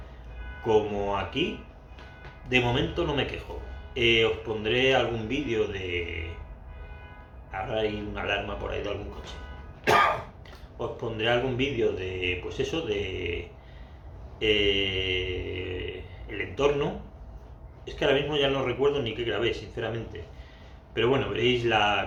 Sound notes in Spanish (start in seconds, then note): 6.2 ahora suena una alarma de coche